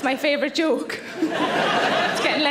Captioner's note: audience laughing